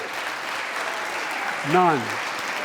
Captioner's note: applause